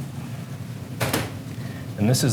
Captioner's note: clanking